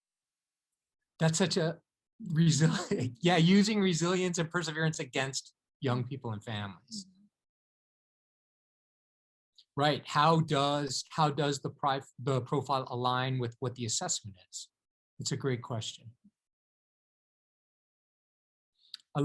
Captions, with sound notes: That's such a reasonably (chuckles)... Yeah, using resilience and perseverance against young people and families. Right, how does the the profile align with what the assessment? It's a great question.